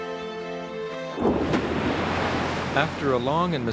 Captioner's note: water rushing; ice rumbling